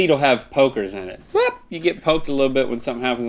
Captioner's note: yelps